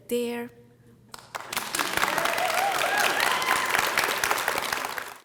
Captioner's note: audience clapping and cheering